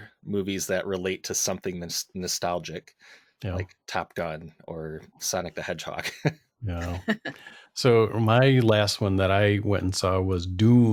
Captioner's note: laughter